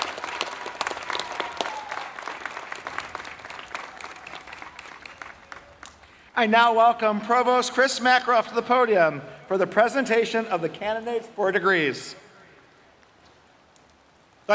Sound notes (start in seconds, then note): 2.9 applause